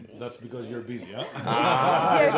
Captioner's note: laughing